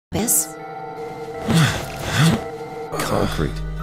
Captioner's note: Sigma grunts then reverses his grunts